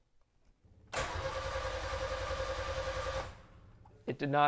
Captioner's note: engine whirring